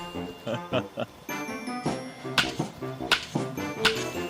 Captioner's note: laughs